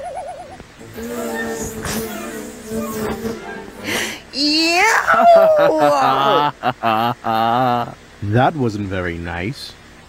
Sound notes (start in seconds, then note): 5.2 laughing